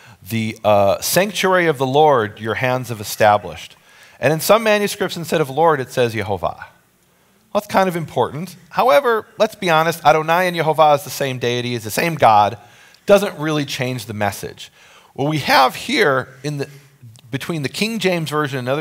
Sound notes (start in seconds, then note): 10.1 speaking in foreign language